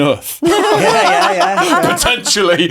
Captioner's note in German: alle lachen